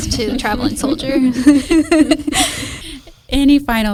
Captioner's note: everyone laughs